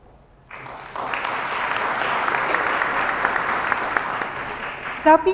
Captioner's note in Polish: oklaski